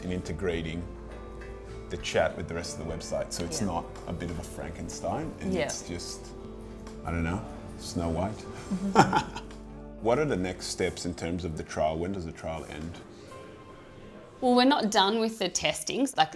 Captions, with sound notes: and integrating the chat with the rest of the website so it's not a bit of a Frankenstein and it's just, I don't know, Snow White. (laughing) What are the next steps in terms of the trial? When does the trial end? - Well, we're not done with the testing,